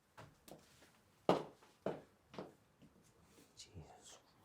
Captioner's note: footsteps receding